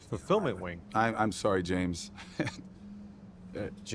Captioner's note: chuckles